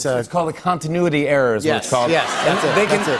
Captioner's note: laughter